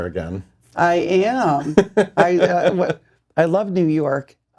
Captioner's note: laughing